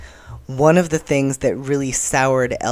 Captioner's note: none